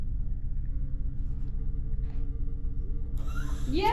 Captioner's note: rods resetting